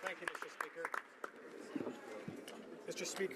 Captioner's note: applause